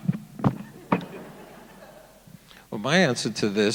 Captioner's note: audience laughing